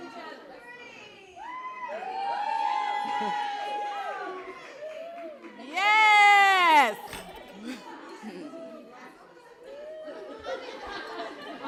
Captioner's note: cheering